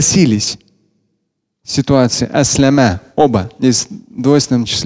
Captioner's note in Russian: Говорит на арабском